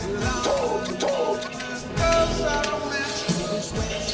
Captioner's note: exclaiming